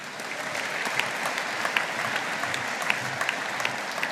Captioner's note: audience applauding